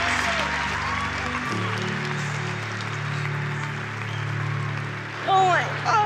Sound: applause

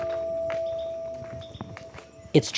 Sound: footsteps

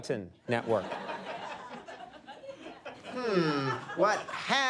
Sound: audience laughing

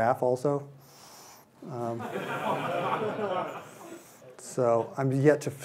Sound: laughter

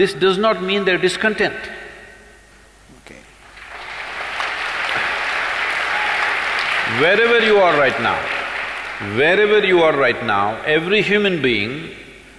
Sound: applause

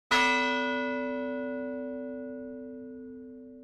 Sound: bell ringing

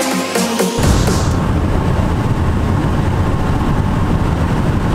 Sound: wind roaring

